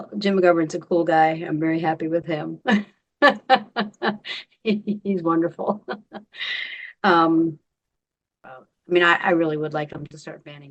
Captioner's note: laughing